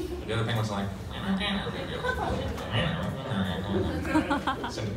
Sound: confused Penguin noises

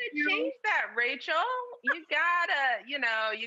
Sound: laughing

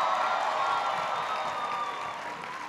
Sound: applause

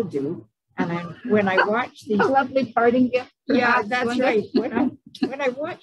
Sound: laughs

